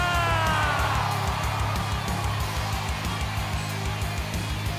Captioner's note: cheering